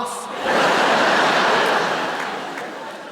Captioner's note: laughter